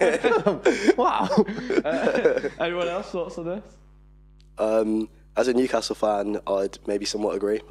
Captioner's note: laughing